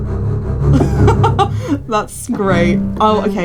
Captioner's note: dramatic music continues; laughs